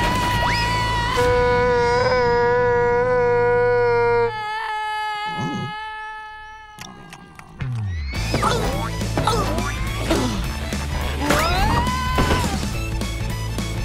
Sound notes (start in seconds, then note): 1.1 screaming; 8.3 groaning